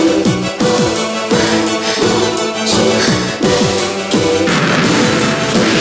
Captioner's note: breathing